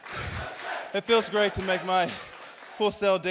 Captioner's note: crowd cheering